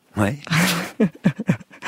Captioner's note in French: rires